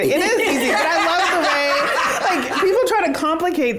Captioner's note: all laugh